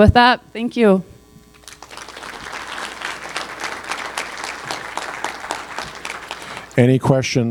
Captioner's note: applause